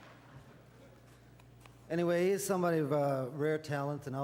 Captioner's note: audience laughter